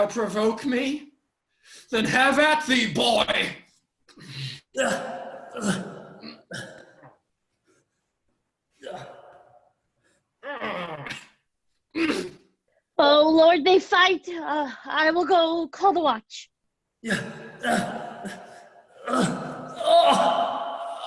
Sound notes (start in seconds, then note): 4.6 grunts, fighting noises; 17.0 grunts, fighting noises